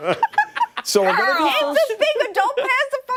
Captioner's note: laughter